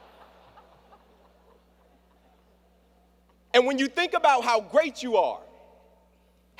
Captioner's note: laughter